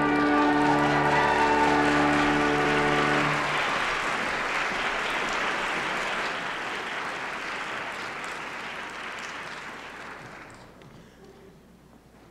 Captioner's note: applause